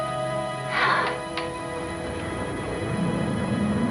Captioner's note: sighing